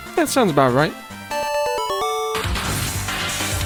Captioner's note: pokemon victory chime